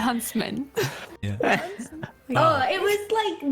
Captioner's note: uncomfortable noises